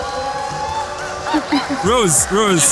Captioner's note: laughs